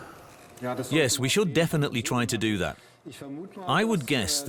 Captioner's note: in German